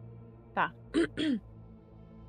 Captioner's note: clears throat